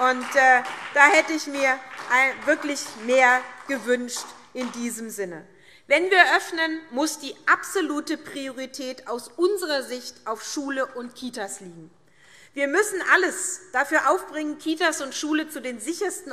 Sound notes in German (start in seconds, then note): 3.9 Beifall SPD